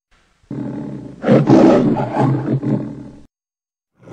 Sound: Leo the Lion purring and roaring; Leo the Lion roaring, purrs, then roars again

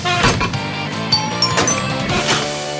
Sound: chiming

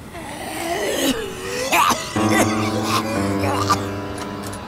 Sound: unusual zombie coughing sounds

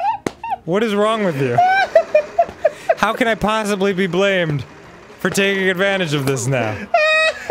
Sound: laughs in the background; continues laughing; both proceed to laugh

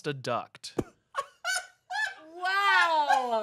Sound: laughs

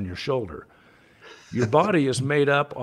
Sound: laughs

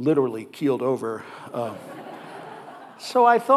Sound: audience laughing

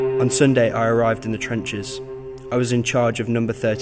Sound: voiceover

